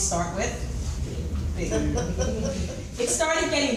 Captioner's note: audience chuckles